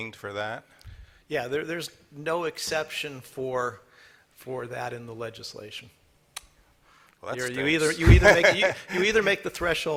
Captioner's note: laughter